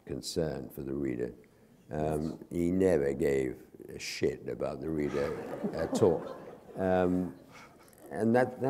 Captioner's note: laughter